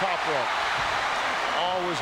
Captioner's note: audience cheering